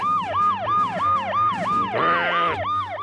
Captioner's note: grumbles